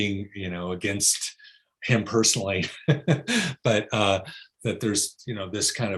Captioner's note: laughs